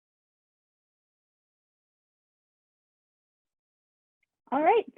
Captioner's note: silence